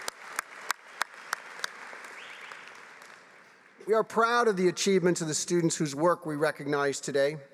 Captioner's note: applause